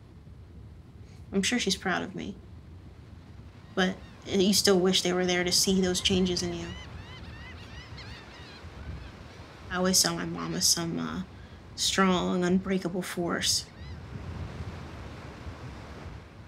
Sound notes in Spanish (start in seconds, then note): 7.1 Aves graznando